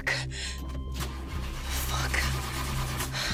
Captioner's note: car engine whirring